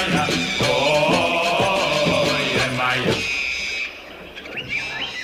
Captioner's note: jungle sound